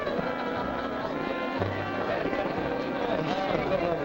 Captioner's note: diners chattering